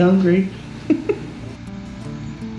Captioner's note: laughs